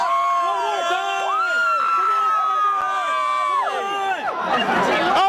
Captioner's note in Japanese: 悲鳴